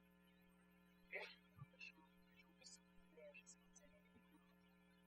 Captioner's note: speaking french